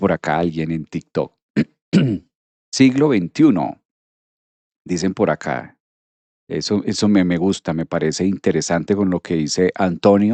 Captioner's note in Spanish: carraspeo